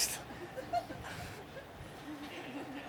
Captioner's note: laughter from group